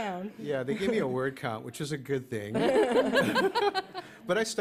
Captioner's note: laughter